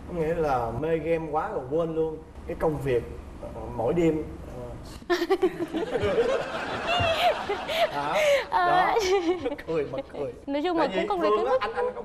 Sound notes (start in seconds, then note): 5.5 laughing